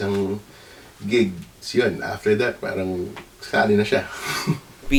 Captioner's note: chuckles